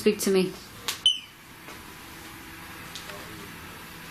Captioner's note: beep